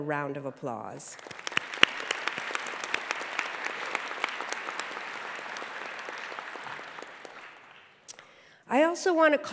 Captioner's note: applause